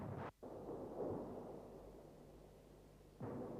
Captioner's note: tanks firing